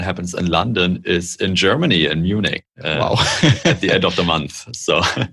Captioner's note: laughter